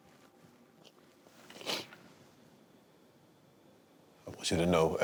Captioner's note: sniffles